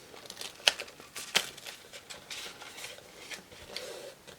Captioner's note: paper crinkling